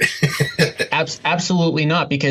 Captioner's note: laughs